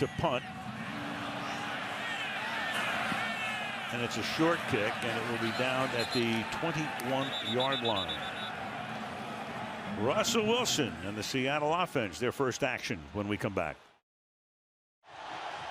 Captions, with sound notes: So now you've got Lock to punt. And it's a short kick and it will be down at the 21-yard line. [whistle blows] Russell Wilson and the Seattle offense, their first action when we come back.